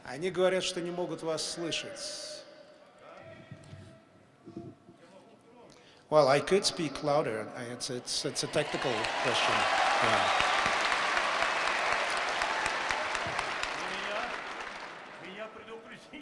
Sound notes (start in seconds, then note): 9.6 applause; 14.2 banter in Russian